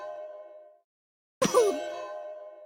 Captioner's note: groan of pain